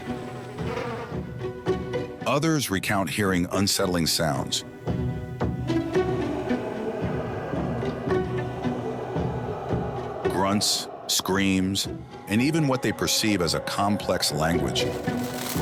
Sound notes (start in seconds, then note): 0.0 flies buzzing; 6.0 creature howling; 6.3 suspenseful music continues; 14.8 wings fluttering; 15.4 suspenseful music continues